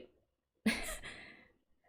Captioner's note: laughs